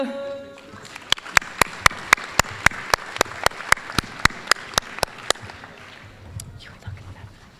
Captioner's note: applause